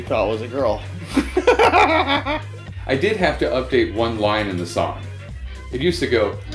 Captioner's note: laughing